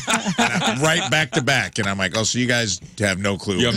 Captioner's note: laughing